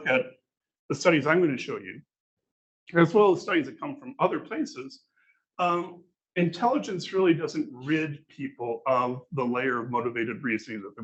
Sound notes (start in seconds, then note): none